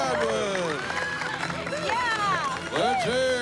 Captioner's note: cheers, applause